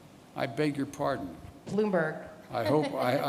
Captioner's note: laughs